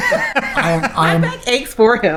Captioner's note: laughing